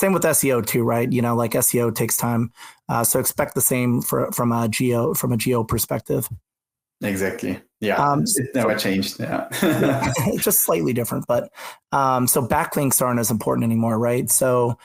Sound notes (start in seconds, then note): 9.4 laughs